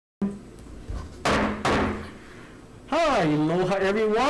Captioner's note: gavel striking